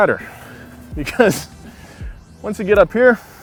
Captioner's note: laughs